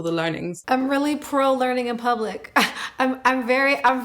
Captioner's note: laughs